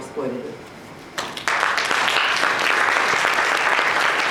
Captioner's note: audience applauds